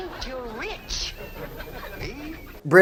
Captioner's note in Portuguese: risos da plateia